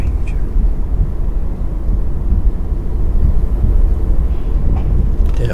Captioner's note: wind blowing